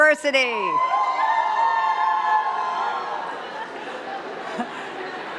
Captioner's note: cheers and claps